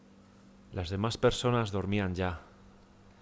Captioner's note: voiceover